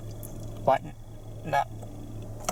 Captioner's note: speaking hesitantly